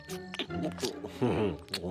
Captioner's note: laughs